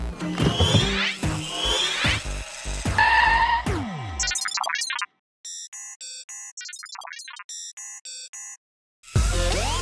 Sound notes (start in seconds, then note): 0.4 robot zooms; 5.5 robots beep conversationally